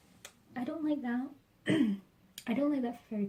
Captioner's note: clears throat